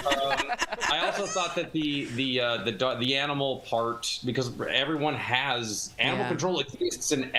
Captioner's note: laughter